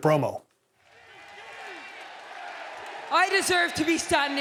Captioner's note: audience cheering